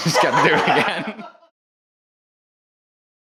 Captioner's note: both laughing